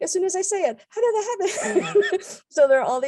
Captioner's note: laughs